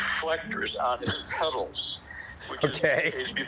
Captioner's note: laughs